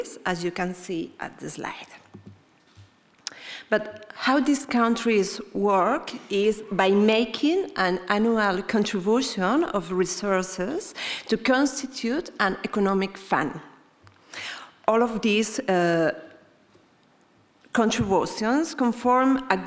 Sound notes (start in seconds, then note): none